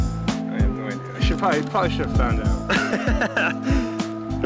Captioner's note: laughing